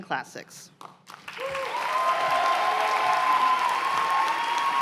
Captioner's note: cheers and applause